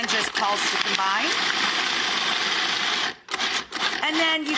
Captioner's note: grinding